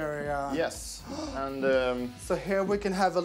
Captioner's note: Mrs. gasping